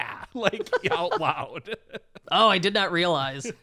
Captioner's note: chuckling